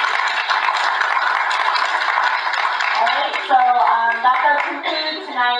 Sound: applause; applause continues

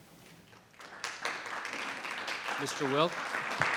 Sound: audience applauding

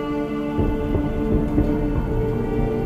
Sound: none

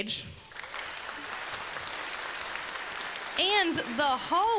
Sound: congregants applaud

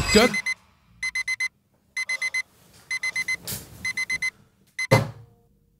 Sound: alarm

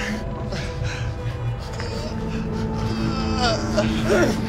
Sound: groaning

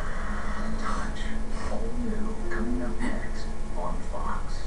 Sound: on TV

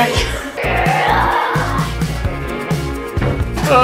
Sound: roars

